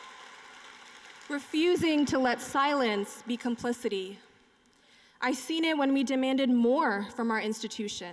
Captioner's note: cheering and applause